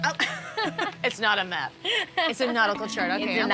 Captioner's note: laughs